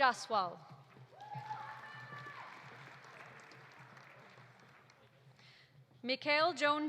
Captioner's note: audience cheering; audience applauding